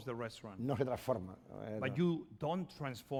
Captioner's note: speaking spanish